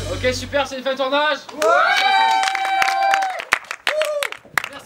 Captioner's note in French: cris de joie